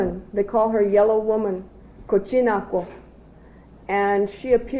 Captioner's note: non-english